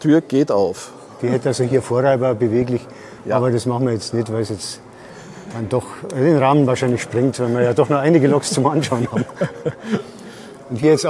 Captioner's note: laughs